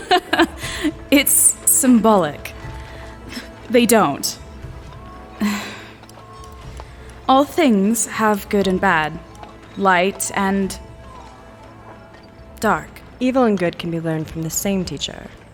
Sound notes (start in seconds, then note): 0.0 laughing; 5.4 sigh